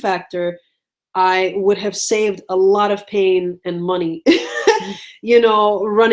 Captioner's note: laughs